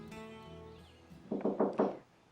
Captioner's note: knock on door